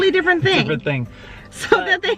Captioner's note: chuckles